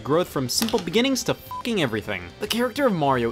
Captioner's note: beep